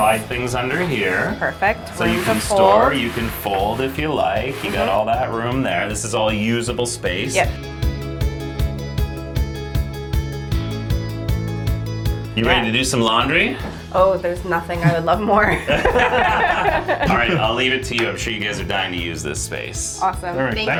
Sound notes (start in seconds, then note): 8.1 upbeat instrumental music; 14.8 laughing